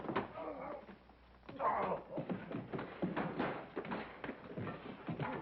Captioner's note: groaning